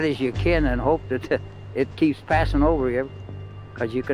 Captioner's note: chuckles